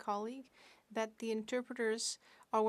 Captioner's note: speaking French